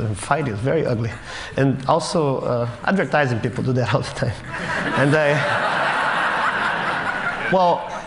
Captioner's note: Laughter